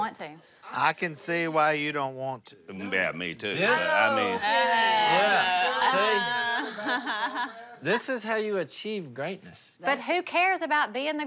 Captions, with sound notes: - I can see why you don't want to. - Yeah, me too, but I mean-- - This? - Oh, please. - Yeah, see? - Ah! [laughs] - This is how you achieve greatness. - But who cares about being the greatest?